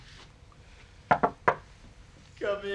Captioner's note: tapping on the door